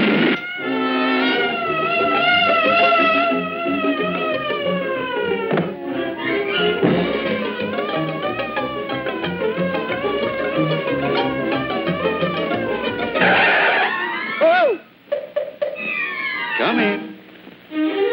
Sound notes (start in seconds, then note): 1.9 siren blaring; 13.2 screaming; 14.8 knocking sound